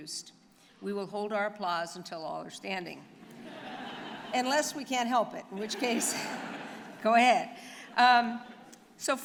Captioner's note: laughter